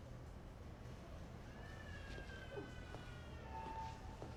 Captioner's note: baby cries in the distance